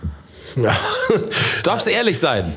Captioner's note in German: lacht